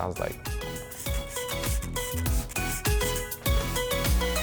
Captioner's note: bottle spraying